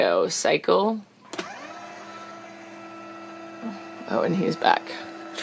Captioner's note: Litter-Robot whirrs